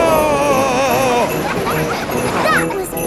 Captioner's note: screaming; children laughing